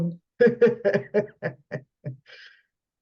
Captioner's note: laughs